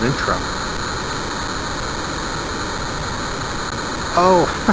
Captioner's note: rocket engine firing; chuckles